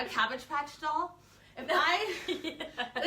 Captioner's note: chuckles